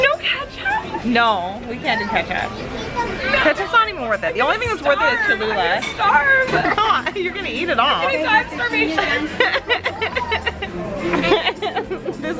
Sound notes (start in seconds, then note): 5.9 laughing